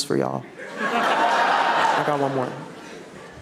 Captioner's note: audience cheering